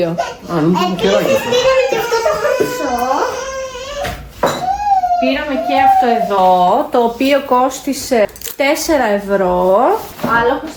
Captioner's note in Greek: κλάμα